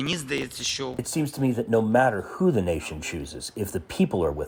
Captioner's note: through translator